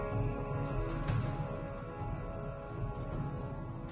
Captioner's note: footsteps